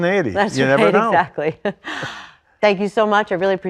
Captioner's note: laugh